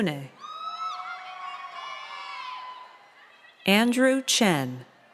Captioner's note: crowd cheers